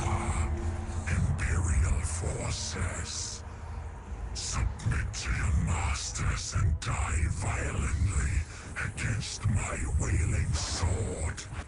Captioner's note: deep, menacing voice